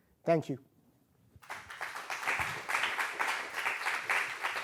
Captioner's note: applause